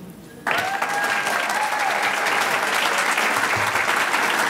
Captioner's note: audience clapping